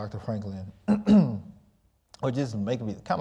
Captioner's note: clearing throat